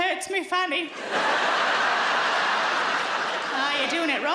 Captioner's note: audience laughs